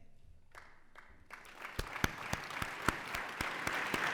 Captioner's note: applause